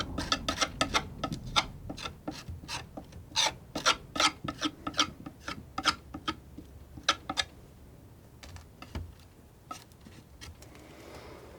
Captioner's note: sculpture sounds